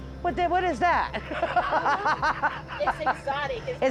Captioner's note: laughs